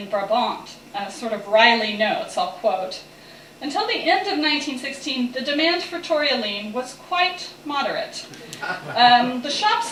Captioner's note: laughter